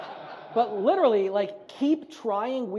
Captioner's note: audience laughs